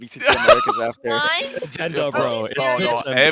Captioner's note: laughs